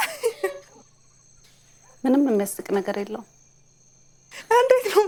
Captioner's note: laughter